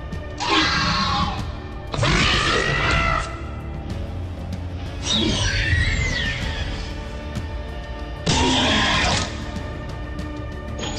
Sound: velociraptor sounds

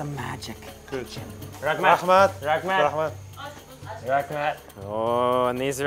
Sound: speaking foreign language

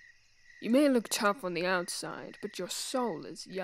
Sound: none

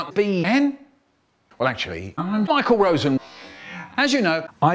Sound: breathes in

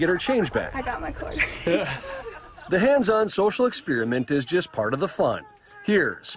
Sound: laughter

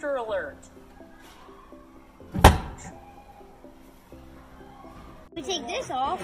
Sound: alarm sounds

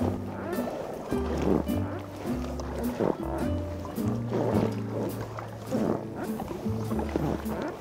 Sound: all you can hear is the sound of rowing and breathing

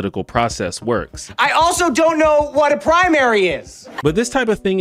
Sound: shouting

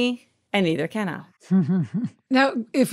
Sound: chuckles

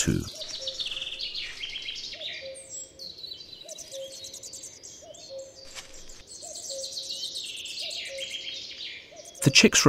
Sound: sounds of nature

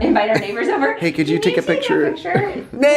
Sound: laughs

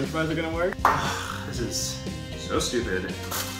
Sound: sighs

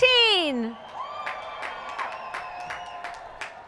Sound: cheering

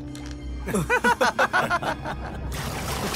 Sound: laughs

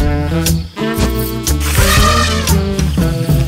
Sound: elephant roars

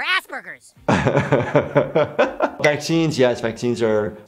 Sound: laughs

